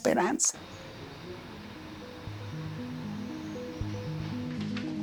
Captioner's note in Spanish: Ruidos de la calle murmuran a lo lejos